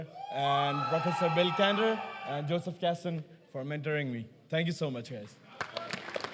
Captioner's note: applause